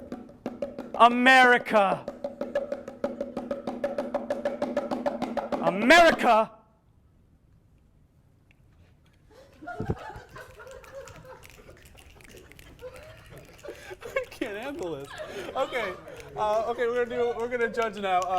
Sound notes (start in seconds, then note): 6.8 bongos stop; 9.4 laughing + finger snapping